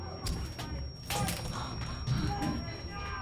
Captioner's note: door breaking apart; mob shouting